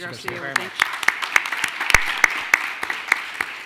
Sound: clapping

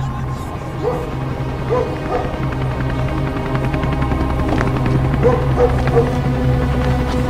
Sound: dramatic music; helicopter whirring

